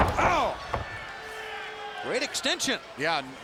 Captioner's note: fans cheering